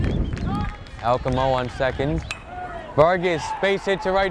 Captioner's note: bat pings